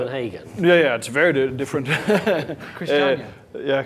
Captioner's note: laughing